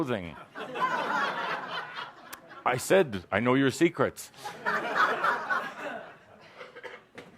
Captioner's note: laughter; more laughter